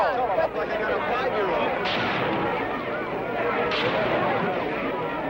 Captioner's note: gunshot firing aggressively